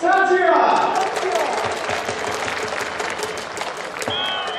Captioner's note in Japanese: 拍手